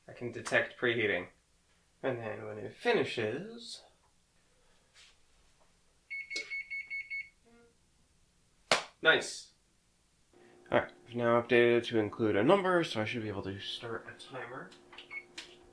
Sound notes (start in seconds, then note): 6.1 beep beep beep beep beep beep; 6.4 click; 7.5 short buzz; 8.6 clap